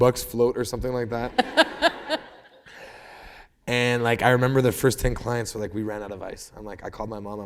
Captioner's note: laughter